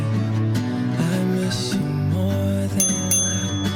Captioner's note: ding ding!